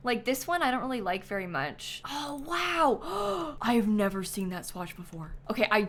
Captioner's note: gasps